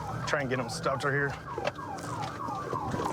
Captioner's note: sirens blaring